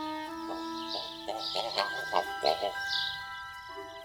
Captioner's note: loud squawking